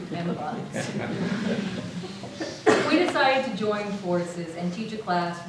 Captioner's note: audience laughs